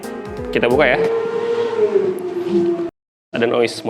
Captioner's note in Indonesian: suara kendaraan